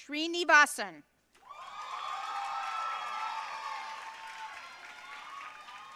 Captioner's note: audience cheering and applauding